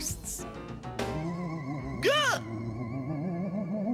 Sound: ghostly moaning

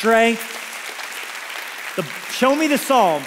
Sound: congregation applauds

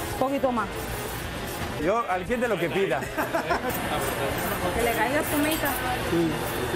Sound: risas

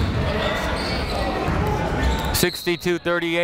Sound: chatter

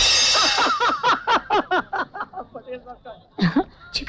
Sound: laughs

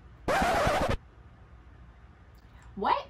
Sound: record scratching

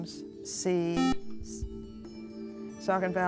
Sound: buzzer

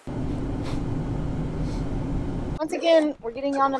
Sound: car driving

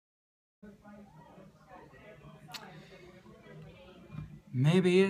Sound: people chatting in background

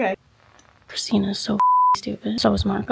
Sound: beep

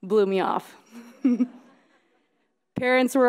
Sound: laughing

